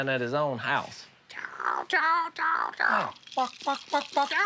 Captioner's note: chicken clucking; clucking